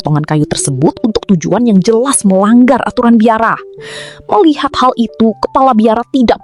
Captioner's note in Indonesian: terkesiap